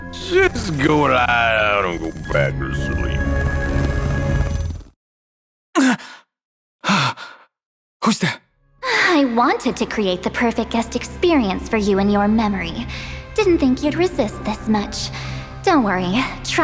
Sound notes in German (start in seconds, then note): 8.1 seufz